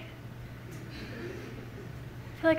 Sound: laughter from the audience

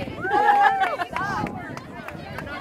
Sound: laughter

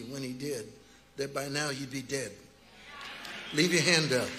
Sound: congregation chattering

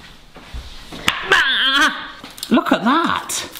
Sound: groans

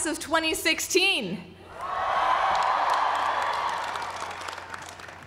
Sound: cheering

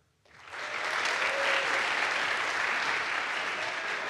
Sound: audience applauds

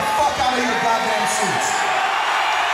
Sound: crowd cheering

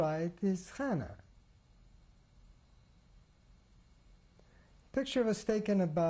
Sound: pauses for 3 seconds

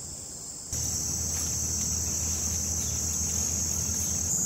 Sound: bugs chirping

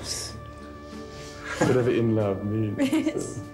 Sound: Diana giggling

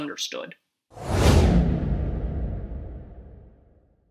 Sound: dramatic whooshing

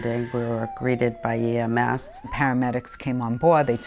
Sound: siren wailing

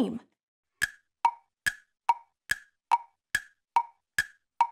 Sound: clock ticking

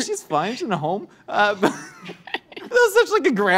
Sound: laugh

